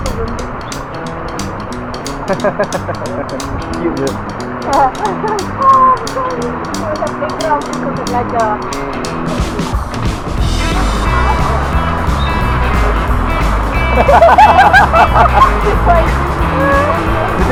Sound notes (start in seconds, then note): 2.0 laugh; 14.0 laugh